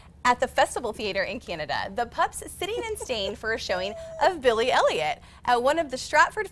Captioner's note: laughter